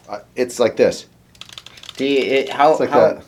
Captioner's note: tapping on trigger